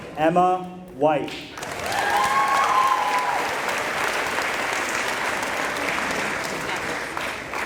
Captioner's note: applause